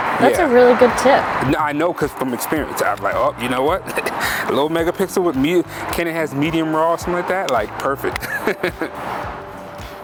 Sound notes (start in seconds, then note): 3.8 chuckles; 8.2 laughs